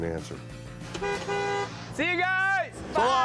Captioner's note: honks horn